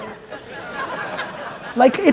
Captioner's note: audience chuckles